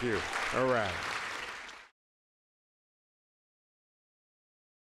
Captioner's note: audience applauds